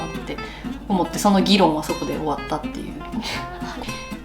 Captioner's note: cold laugh